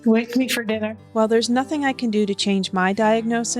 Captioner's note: voiceover